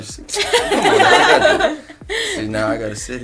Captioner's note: laughter